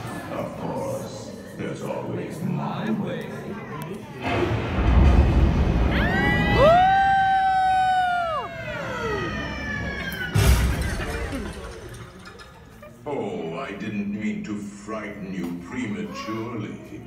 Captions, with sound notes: of course... there's always my way *screams* *crash* oh I didn't mean to frighten you prematurely